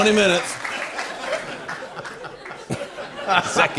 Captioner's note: laughter